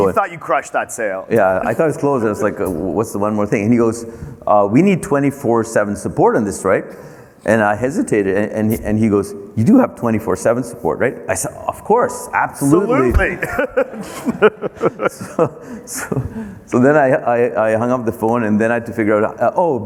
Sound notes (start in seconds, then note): 12.6 laughs